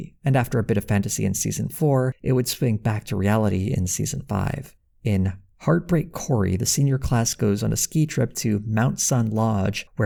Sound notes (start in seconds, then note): none